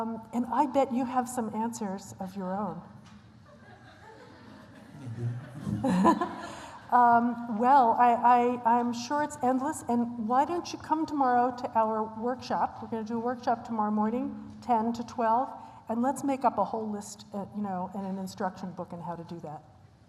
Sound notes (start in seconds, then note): 3.4 laughter